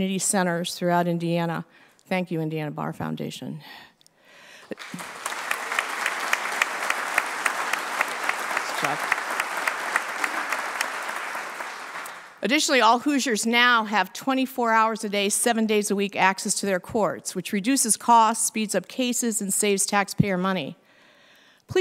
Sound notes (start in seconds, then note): 4.6 applause